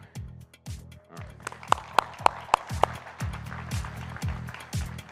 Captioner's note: audience applauding